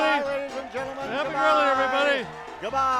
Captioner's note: cheering; lively piano music